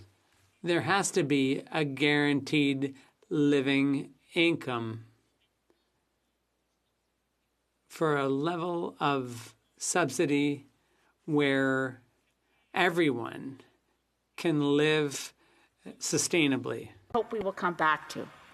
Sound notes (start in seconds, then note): 3.3 speaking French